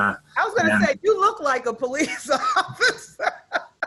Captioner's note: laughs